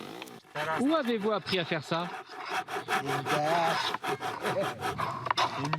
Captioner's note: foreign spoken audio